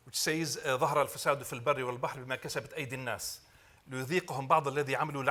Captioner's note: speaking Arabic